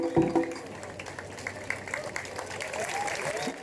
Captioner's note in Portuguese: Aplausos